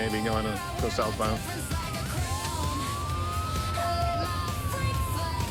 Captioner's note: sirens wailing